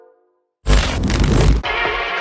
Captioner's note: television static